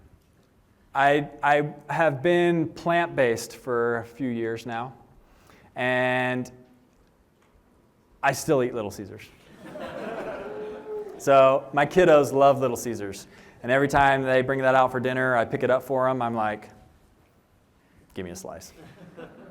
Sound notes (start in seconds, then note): 9.5 laughter